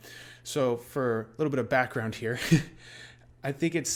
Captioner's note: chuckles